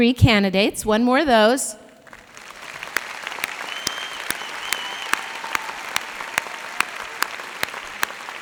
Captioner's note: applause